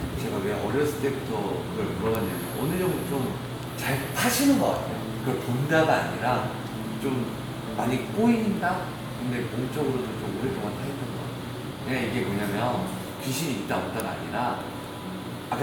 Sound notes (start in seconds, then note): none